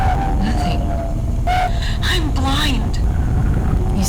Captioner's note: Distorted Fidelia